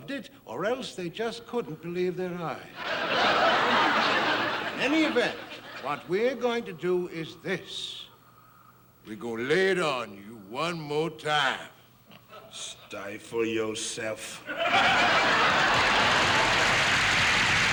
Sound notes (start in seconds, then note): 2.7 audience laughing; 8.5 in a deeper voice; 14.5 audience laughing and applauding